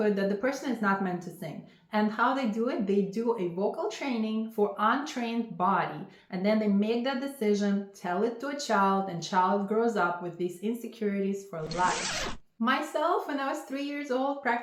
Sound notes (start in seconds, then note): 11.5 zipper rasps